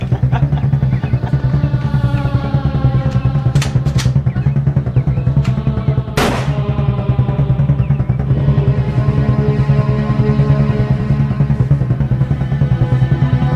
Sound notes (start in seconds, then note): 0.0 laughing; 6.2 gunshot